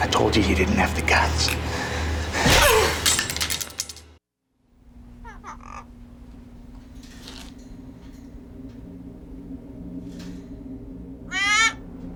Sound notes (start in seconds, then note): 2.5 grunts; 5.2 kitty squawking